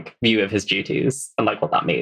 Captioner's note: laughs